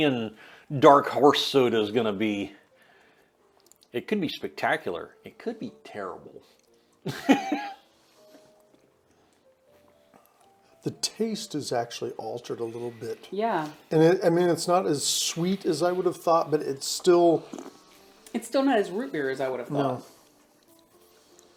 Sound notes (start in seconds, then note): 7.0 laughing